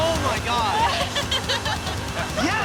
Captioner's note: employees laughing